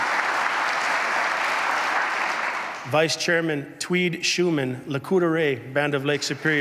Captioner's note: applause